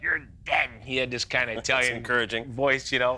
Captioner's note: laughter